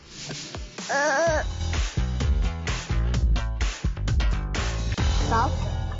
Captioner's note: upbeat music; grunting